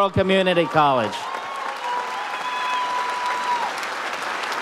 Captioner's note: audience applauds